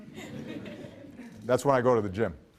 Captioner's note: laughs